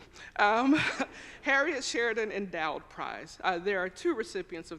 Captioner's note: chuckles